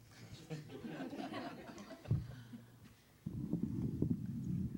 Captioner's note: all laughing